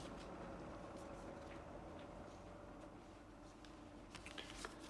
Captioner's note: none